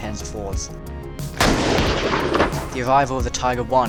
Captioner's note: explosion